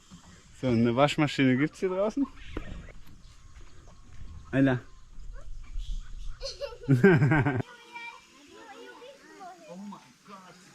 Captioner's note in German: gelächter